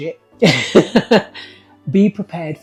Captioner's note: laughs